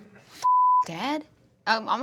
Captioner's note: beep